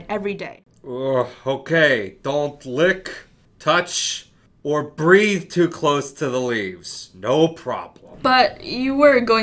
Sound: groan

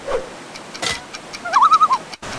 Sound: loon call

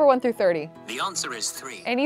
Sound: voice On Phone

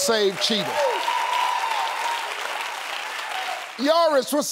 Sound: audience clapping

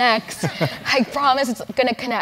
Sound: laugh

